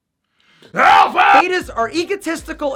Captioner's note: yells